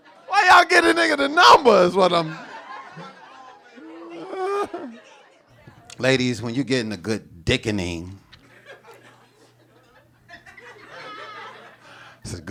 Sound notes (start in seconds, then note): 0.0 audience laughing; 4.3 chuckles; 8.4 audience chuckling